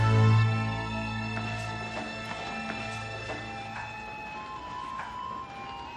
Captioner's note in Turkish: zil çalıyor